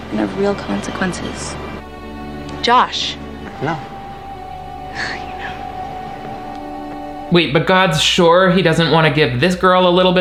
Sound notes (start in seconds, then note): 1.4 somber instrumental music; 3.2 scoffs